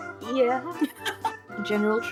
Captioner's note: laughing